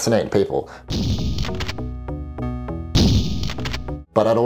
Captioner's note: gun shooting